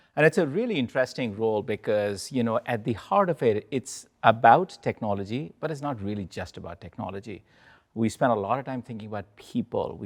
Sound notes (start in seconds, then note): none